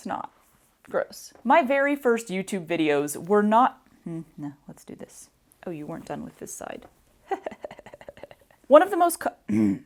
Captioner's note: muttered; chuckles; harumph